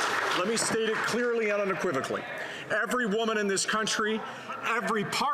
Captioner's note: some Applause